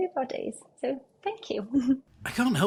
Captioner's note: giggles